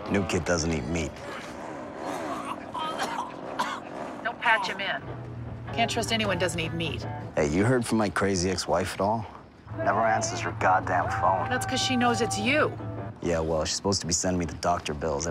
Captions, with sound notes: New kid doesn't eat meat. [GAGS, COUGHS] Don't patch him in. Can't trust anyone doesn't eat meat. Hey, you heard from my crazy ex-wife at all? Never answers her goddamn phone. That's because she knows it's you. Yeah, well, she's supposed to be sending me the doctor bills.